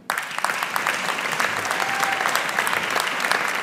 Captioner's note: audience applauding